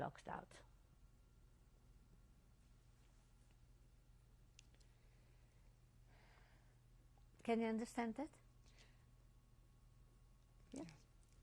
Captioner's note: pauses for 7 seconds